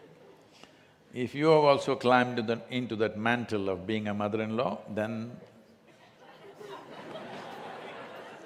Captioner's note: laughter